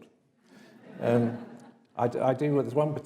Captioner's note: audience laughs